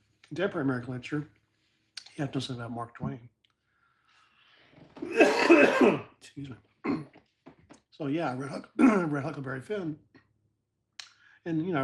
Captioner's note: cough